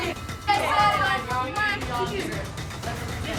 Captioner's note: overlapping chatter